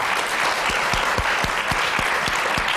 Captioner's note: applause